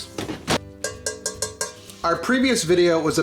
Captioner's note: tapping pan